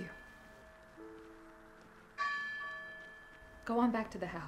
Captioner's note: bell tolling